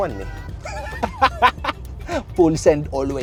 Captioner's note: laughs